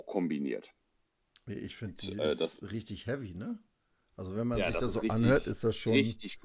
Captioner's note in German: schnauben